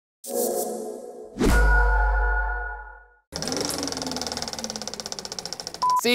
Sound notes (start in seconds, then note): 0.3 logo whooshing; 3.4 projector reels